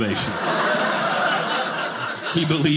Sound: audience laughing

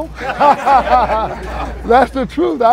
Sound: laughs

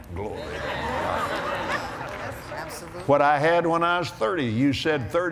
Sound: laughter

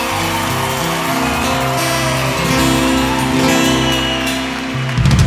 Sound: audience cheering and clapping

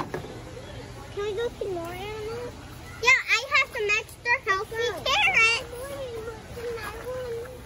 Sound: thud

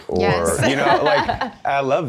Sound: laughs

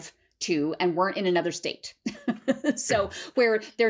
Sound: laughter

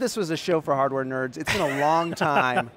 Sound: laughing

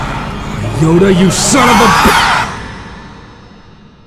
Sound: whimpering

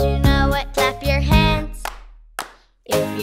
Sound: clapping

